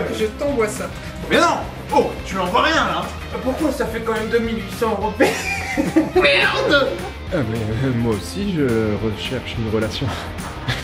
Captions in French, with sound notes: Je t'envoie ça. Mais non, tu lui envoies rien là ! Pourquoi ? Ça fait quand même... (fou rire). Mais moi aussi je recherche... une relation.